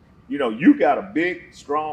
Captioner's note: none